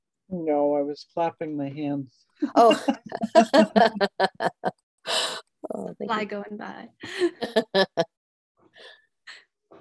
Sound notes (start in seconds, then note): 2.6 laughter